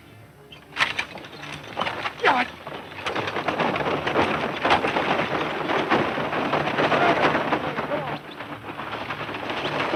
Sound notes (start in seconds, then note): 3.4 wagons rattling loudly